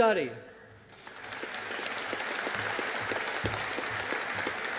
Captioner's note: audience applauding